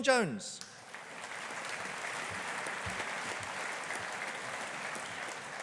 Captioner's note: audience applauding